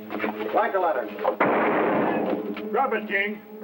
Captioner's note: gunshot